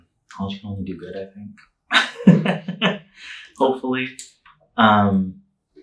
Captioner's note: laughing